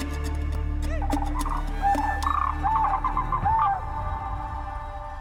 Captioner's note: animals hooting; mystical music continues